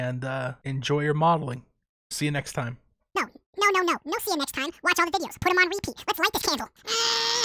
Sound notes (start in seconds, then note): 2.7 video speeds up one last time, chipmunk voice returns; 6.8 chipmunk yells